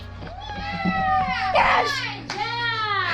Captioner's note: cheering